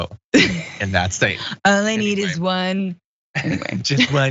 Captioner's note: laugh